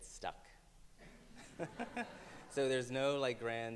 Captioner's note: Browne and audience laugh in unison